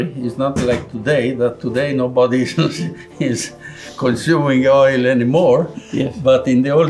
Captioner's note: laughs